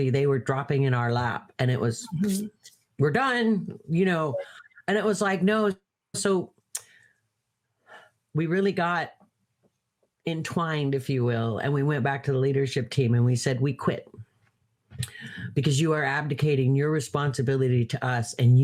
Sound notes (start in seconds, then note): 2.0 hands rubbing